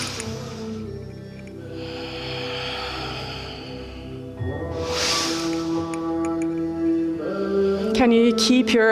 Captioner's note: sighs